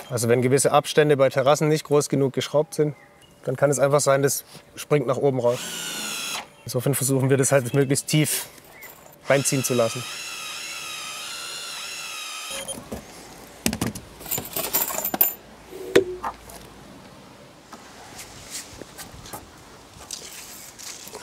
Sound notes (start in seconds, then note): 12.5 beep; 14.2 clattering